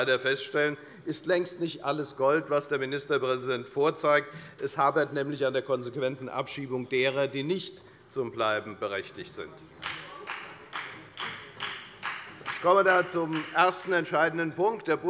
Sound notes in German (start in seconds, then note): 9.8 Beifall bei der FDP